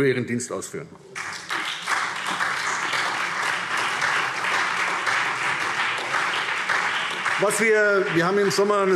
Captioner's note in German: Beifall SPD, CDU und BÜNDNIS 90/DIE GRÜNEN